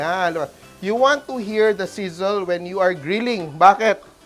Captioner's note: sizzles